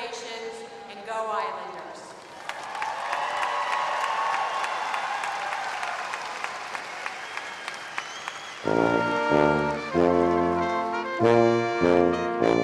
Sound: applause

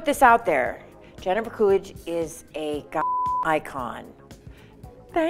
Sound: beep

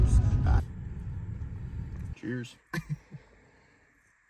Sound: laughs

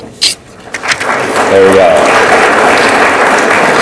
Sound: audience applauds

